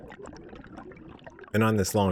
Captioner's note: water Sounds